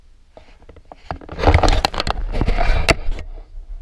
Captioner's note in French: GRINCEMENT DE PENTURE DE GoPRO